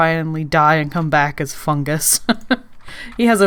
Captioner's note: laughs